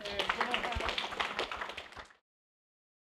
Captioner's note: applause